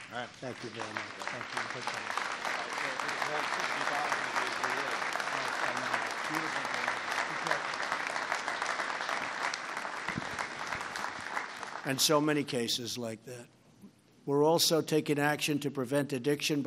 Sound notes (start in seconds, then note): 3.8 applause